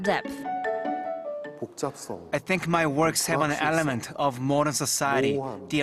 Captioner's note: korean